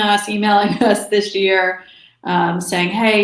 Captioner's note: chuckles